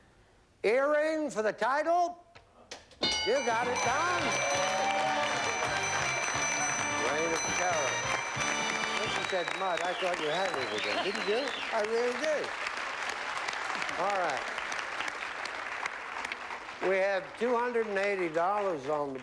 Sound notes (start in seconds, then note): 4.9 cheering